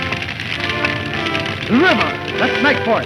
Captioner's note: intense orchestral music; fire crackling